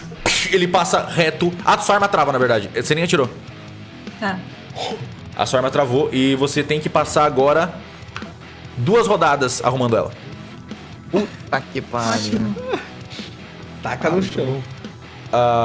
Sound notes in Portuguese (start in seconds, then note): 12.2 Risada